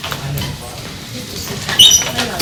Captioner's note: people chattering softly